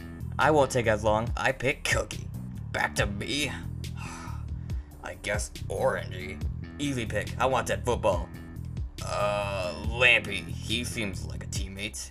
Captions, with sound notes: I won't take as long, I pick Cookie! BACK TO ME? (Sigh) I guess Orangey. Easy pick, I want Dead Football. Uh, Lampy. He seems like a teammate.